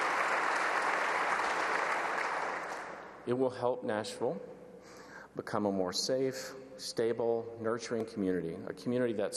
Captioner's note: applause